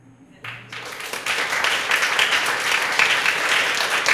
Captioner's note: applause